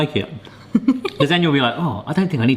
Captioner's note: laughing